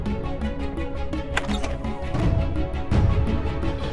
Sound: door opens

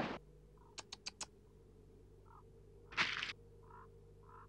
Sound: Chief Weasel tuts

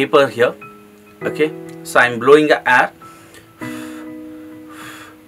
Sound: blowing air

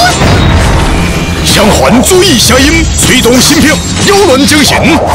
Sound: the two rings along with the evil sound!

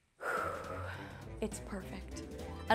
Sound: sighing

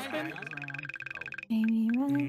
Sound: phone ringing

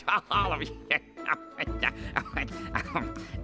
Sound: laughing

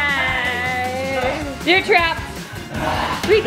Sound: shouts

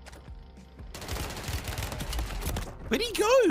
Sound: gun fires

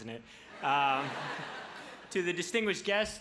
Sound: crowd laughs

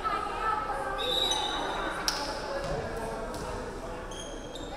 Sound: referee whistling

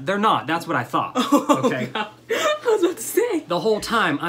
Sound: laughs

